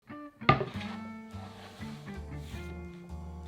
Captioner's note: cutting board sliding